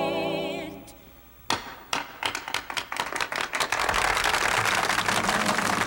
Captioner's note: company applauding